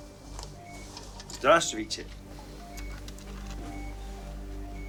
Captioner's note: speaking Russian